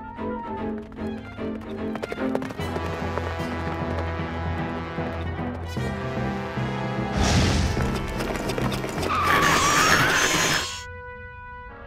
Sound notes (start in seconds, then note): 8.9 hooves screeching; 10.4 metal grinding